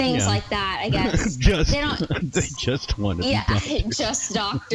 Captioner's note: laughs